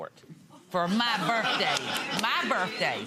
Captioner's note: audience laughing